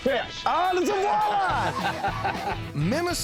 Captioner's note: laughing